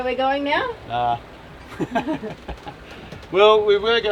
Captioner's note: laughs